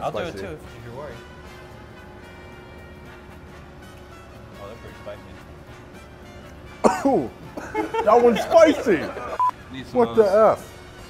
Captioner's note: coughing